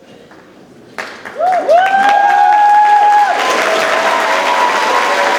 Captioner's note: audience cheers and claps